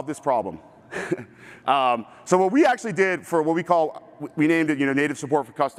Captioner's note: chuckles